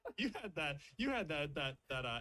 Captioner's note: laughs